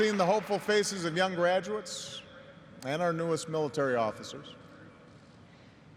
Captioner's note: applause